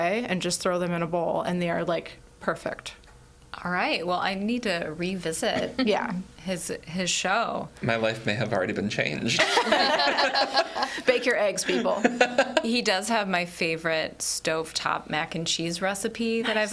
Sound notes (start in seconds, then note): 9.4 all laugh; 11.6 laughs